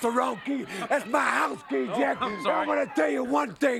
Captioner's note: laughs